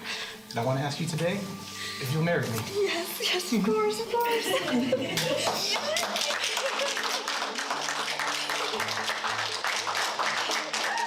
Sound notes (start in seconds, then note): 5.1 applause; 8.9 upbeat music